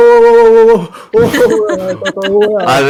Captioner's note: laugh